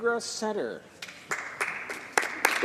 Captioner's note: applause